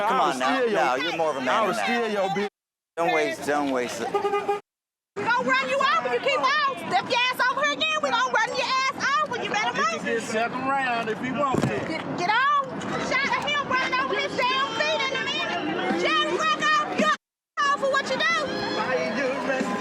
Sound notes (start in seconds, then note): 4.0 horn honking